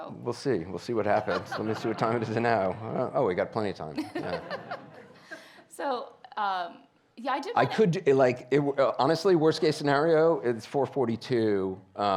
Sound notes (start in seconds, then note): 4.0 laughs